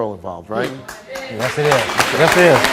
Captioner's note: audience applauds